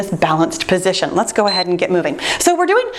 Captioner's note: timer beeps